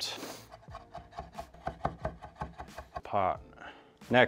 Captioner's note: soft chopping sounds